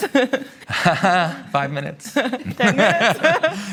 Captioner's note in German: Lacht